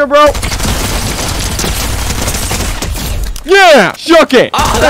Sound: multiple guns firing

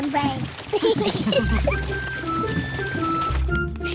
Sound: all giggle

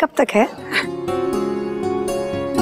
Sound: laughs

